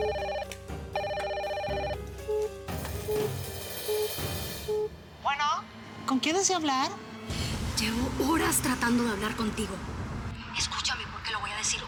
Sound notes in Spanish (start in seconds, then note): 0.9 Suena el teléfono; 4.4 Fingiendo el tono de voz